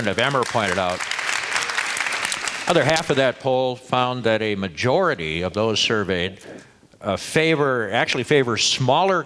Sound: applause

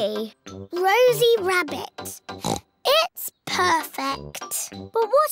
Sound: oinks

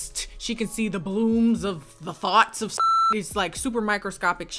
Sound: beep

